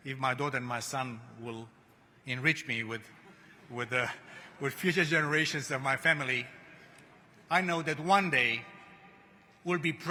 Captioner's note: laughter